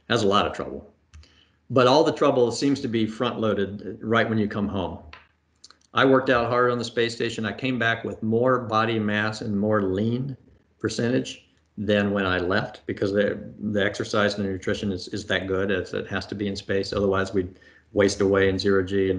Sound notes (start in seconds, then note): none